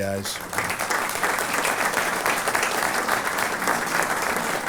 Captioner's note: applause